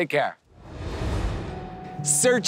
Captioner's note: air whooshing